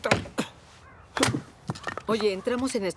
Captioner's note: chopping